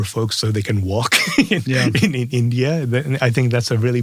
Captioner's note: laugh